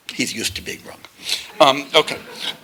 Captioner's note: laughter